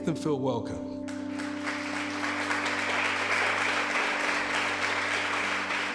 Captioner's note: congregation applauding